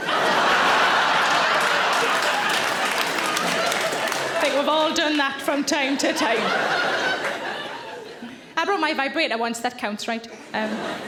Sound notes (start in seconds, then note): 0.0 audience laughing; 2.3 audience clapping